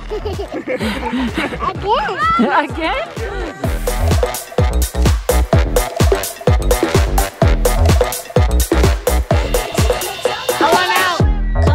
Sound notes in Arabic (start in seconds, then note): 0.0 يضحك الجميع; 4.3 موسيقى مبهجة